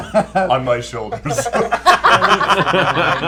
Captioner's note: laughter